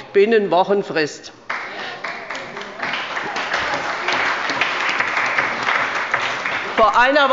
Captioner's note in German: Beifall bei Abgeordneten der CDU, der SPD und des BÜNDNISSES 90/DIE GRÜNEN